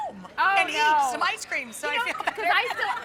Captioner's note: laughing